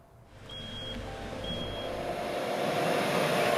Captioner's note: truck zooms